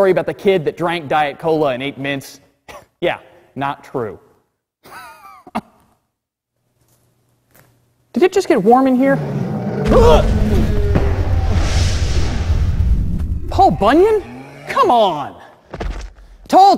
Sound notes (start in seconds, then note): 4.4 laughs; 11.6 roaring